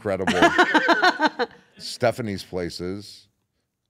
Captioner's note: laugh